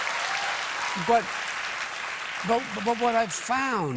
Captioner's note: applause